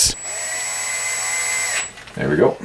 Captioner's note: whirring